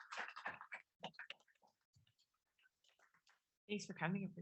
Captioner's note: audience applause